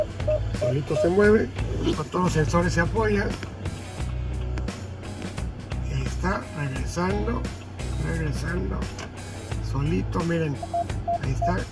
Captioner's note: alarm beeping